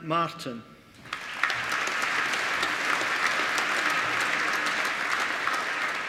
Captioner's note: applause